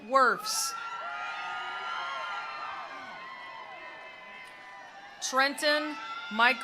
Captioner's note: attendees cheering; attendees applauding